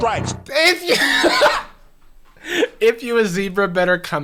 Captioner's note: laughing